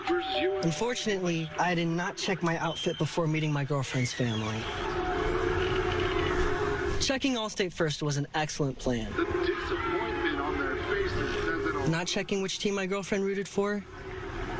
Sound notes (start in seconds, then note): 0.0 bell rings; 6.0 football on TV; 10.8 football on TV